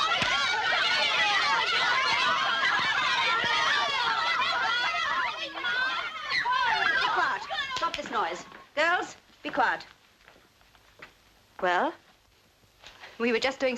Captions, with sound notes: [hand slaps] Keep quiet, stop this noise. Girls, be quiet. Well?